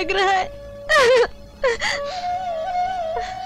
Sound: crying

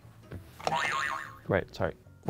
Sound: boing

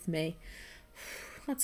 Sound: huffs

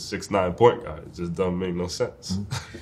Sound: laughs

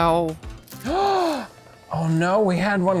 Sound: gasping

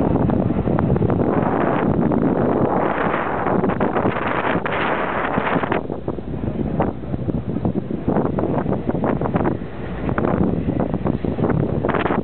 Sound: very Loud Wind Throughout

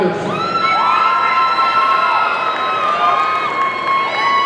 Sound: audience cheering

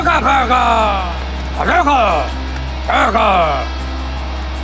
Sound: speaking in foreign language

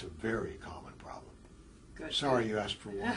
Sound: laugh

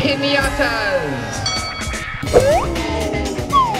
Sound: bell rings

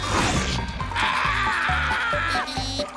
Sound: screaming

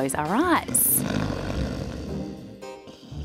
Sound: snoring

